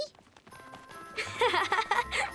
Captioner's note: pleasant music; Lizbeth laughs